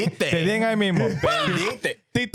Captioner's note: speaking In Foreign Language